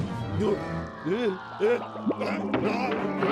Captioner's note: grunting